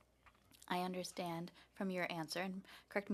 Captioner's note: speaking French